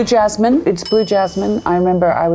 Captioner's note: bell dings